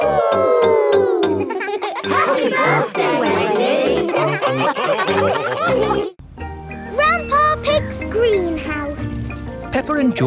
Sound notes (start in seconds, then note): 0.0 all howling; 4.7 all laughing